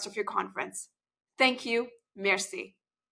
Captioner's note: speaks French